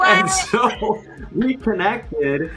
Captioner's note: laughs